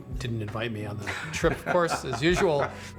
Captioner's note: laughs